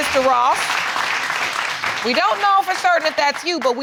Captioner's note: audience applauding